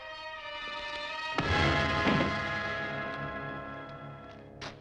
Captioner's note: hook thuds